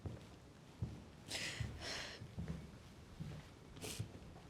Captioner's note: sniffling